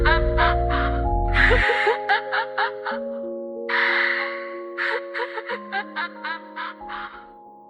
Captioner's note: DA-WARM, womanly, warm, almost human giggles